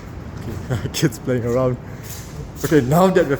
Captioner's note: giggling